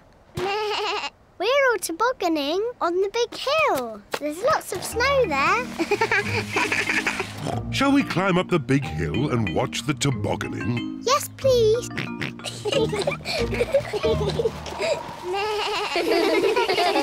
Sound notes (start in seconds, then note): 0.1 bleats; 5.8 laughs; 7.4 snorts; 11.8 both giggle; 11.9 oinks; 15.1 suzy bleats; 15.2 all laugh